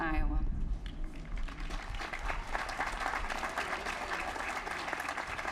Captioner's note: applause